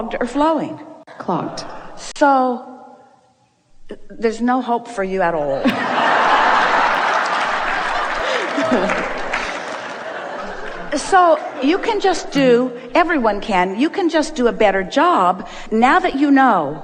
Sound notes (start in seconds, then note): 8.4 audience laugh